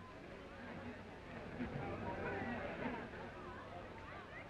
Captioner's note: crowd murmuring